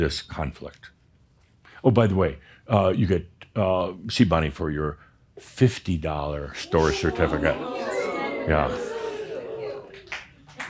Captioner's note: audience says “Oooh!”